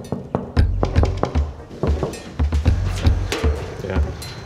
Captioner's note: upbeat music; door knocking